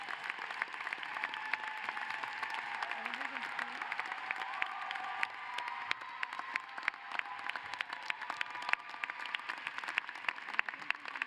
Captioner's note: applause